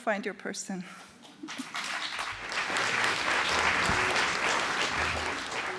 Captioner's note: applause